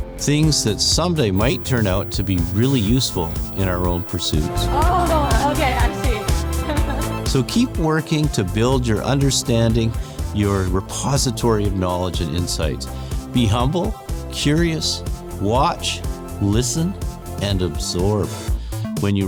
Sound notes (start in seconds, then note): 6.6 student laughing